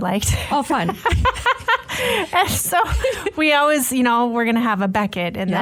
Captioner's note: laughs